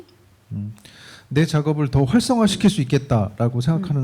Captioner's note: speaking korean